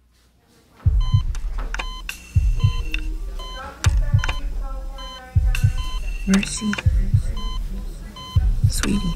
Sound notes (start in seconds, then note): 0.9 beeping